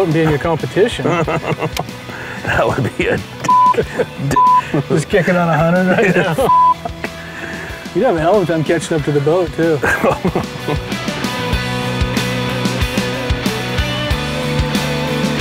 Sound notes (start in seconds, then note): 0.9 laughter; 4.3 beep; 6.4 beep; 9.8 laughter; 13.4 rock